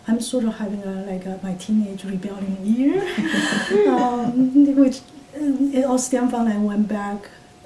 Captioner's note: all laugh